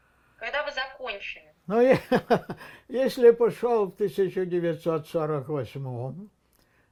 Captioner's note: laughing